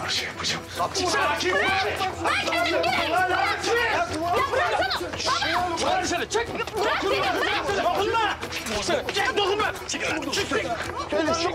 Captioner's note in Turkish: Bağrışma sesleri